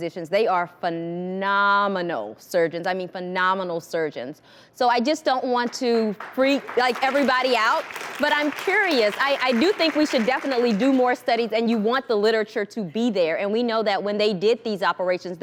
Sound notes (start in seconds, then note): 6.2 audience applauding